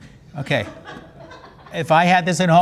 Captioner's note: audience laughs